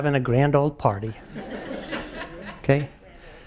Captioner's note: laugh